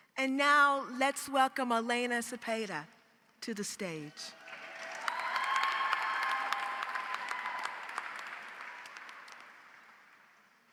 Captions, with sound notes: And now let's welcome Elena Sepede to the stage. -(audience cheers) -(audience applauds)